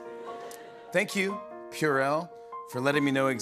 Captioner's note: tender music plays; normal voice